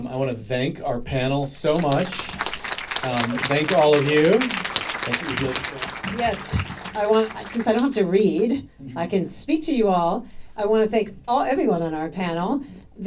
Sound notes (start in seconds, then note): 1.6 audience applauding